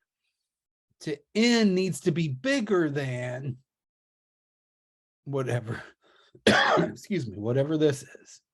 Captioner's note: coughs